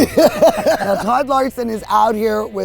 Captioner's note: laughing